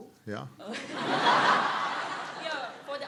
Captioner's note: laughter